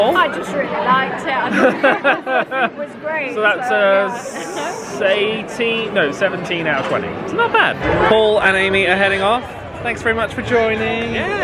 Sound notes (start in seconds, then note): 1.4 group laughs